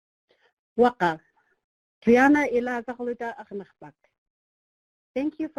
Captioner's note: speaking in foreign language